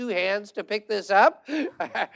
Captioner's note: laughter